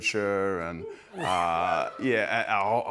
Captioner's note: cheering